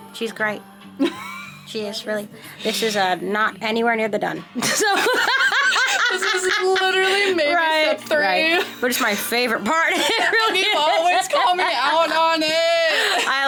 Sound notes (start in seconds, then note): 1.0 laughing; 4.6 laughing; 9.8 laughing